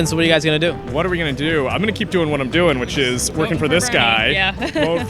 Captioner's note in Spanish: risas